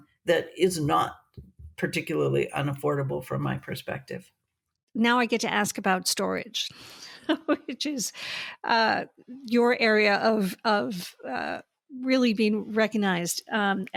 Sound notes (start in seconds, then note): 7.0 laughing